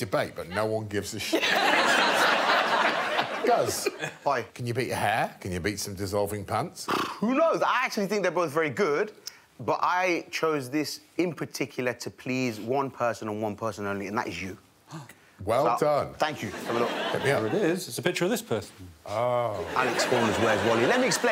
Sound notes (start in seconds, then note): 1.4 audience laughing; 6.8 blows raspberries